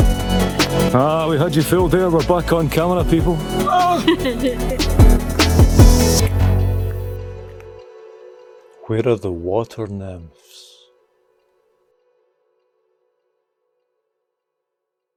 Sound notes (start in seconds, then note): 3.7 laughter